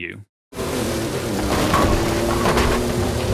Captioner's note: bowling pins being struck